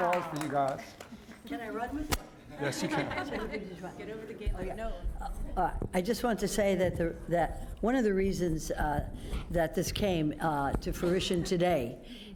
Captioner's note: applause